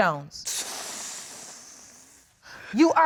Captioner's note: exhales